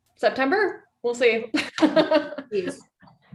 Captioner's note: laughs